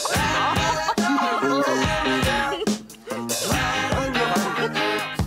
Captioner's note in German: Gelächter